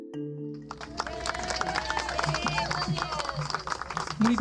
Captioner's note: cheers